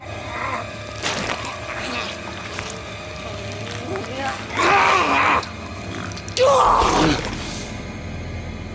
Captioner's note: groaning